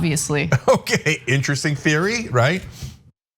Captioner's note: laugh